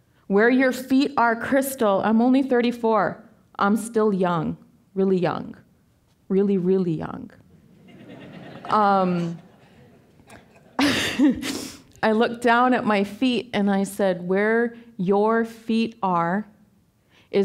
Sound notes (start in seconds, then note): 7.6 audience laughing; 10.8 laughing